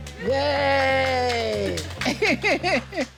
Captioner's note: laughs